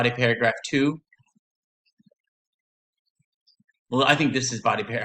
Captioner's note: silence